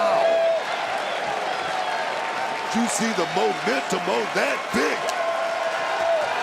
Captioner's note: applause